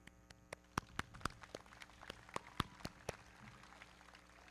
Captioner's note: everybody clapping